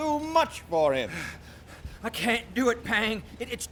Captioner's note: winded